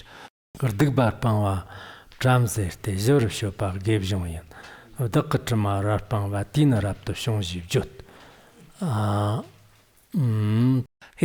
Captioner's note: giving oral transmission in Tibetan